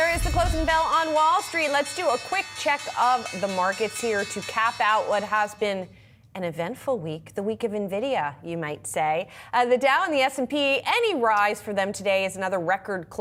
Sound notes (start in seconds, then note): 2.3 bell